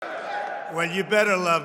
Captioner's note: applause